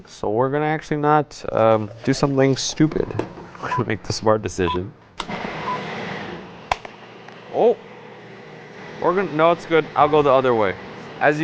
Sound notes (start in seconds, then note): 4.6 countdown timer ticking; 5.2 blender whirs; 6.7 plastic snaps